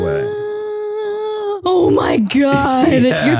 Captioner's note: sighs deeply